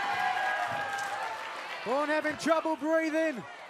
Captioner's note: crowd cheering